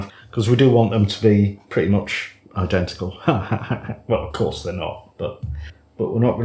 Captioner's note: laffs